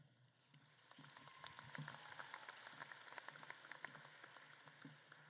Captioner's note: audience claps